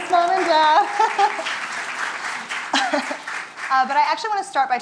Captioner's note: audience applauding